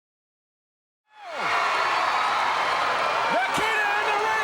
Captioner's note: crowd cheering